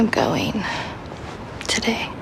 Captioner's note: sighs